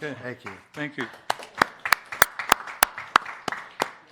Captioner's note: applause